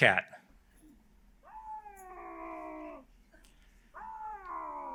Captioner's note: cat meowing